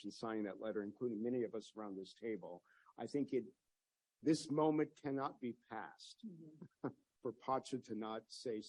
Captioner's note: laughs